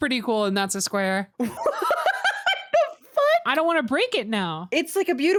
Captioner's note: laughs